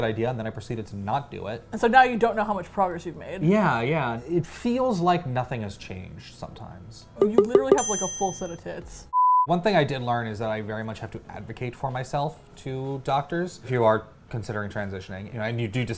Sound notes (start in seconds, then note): 7.3 ding